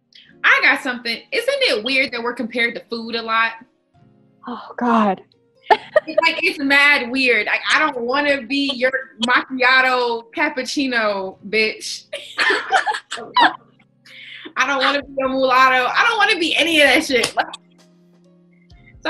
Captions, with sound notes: - I got something. Isn't it weird that we're compared to food a lot? - Oh god. (laughing) - It's mad weird. I don't wanna be your macchiato, cappuccino, bitch. (all laughing) I don't wanna be a mulatto, I don't wanna be any of that shit.